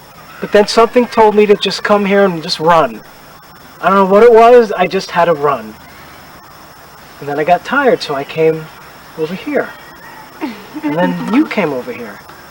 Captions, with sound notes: but then something told me to just come here and just run. I don't know what it was. I just had to run then I got tired so I came over here [Laughs] and then you came over here